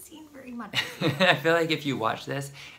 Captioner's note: laughs